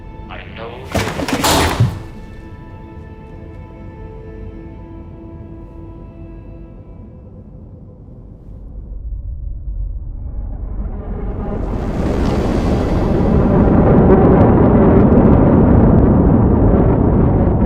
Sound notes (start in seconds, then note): 0.8 предмет падает; 10.0 шум двигателя космического корабля